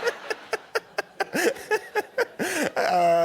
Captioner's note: laughter